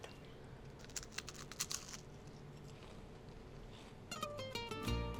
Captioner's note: Crunch